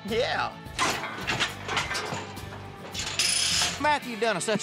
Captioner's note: clanging sounds